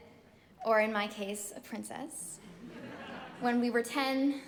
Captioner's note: all chuckling